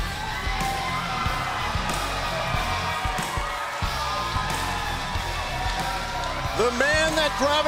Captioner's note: crowd cheering